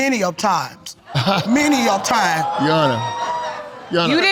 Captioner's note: audience exclaiming